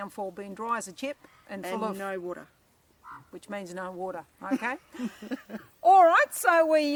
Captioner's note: laughter